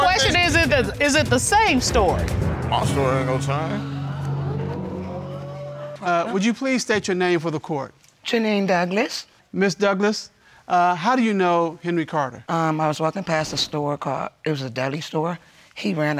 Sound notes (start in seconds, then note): 5.2 audience exclaiming